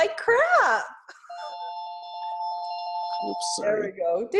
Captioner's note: ringing